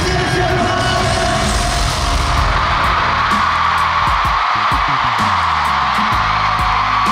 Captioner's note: the deafening screams fill the whole venue